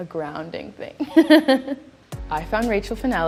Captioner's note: laughing